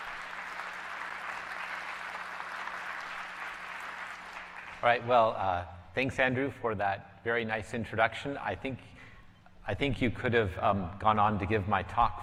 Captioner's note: applause